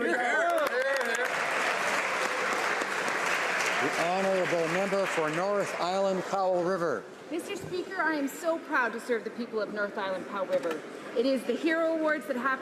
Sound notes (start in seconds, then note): 6.8 some Applause